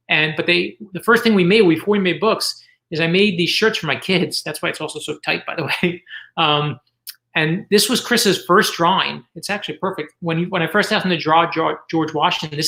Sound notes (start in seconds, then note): 5.6 chuckles